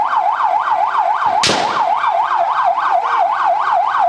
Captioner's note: gunshot